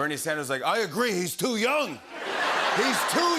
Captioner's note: laughter